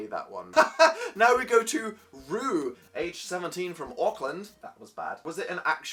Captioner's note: awkward laughter; bad Australian accent